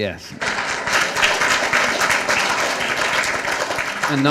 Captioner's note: applause